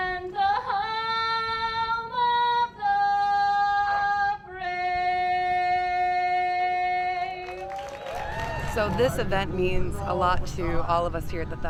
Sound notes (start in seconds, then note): 7.4 crowd cheering